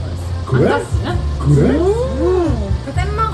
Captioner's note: surprised kids